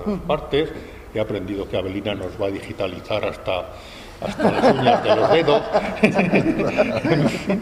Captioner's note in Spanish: risas